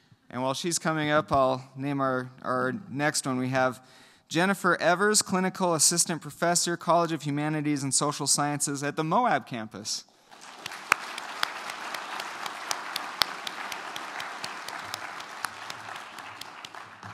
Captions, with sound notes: And while she's coming up, I'll name our next one. We have Jennifer Evers, clinical assistant professor, College of Humanities and Social Sciences at the Moab campus. [APPLAUSE]